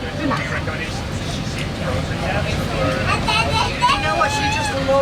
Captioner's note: background chatting